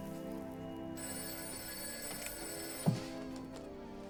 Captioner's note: phone ringing